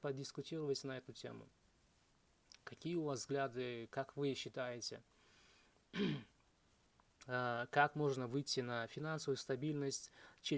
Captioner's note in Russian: откашливается